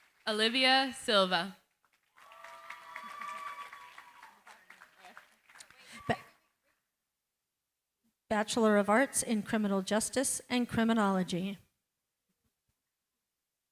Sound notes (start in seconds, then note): 1.9 cheering, applause